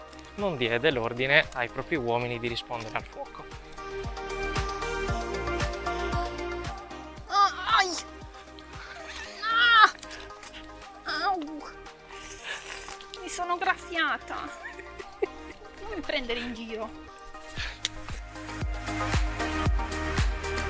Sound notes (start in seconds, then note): 14.4 laughing